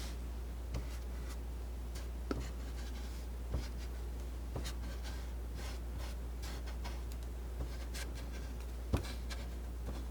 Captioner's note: scratching